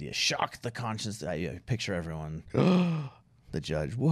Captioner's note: gasping sound